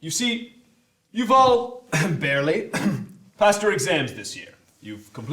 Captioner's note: cough